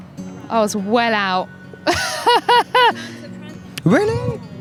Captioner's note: laughs